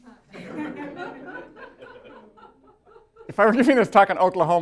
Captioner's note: laughter